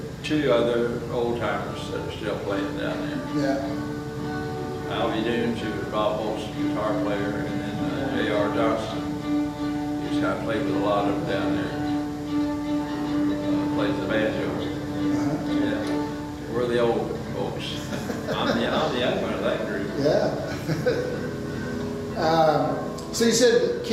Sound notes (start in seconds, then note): 17.7 laughs; 20.2 laughs